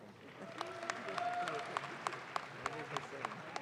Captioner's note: audience claps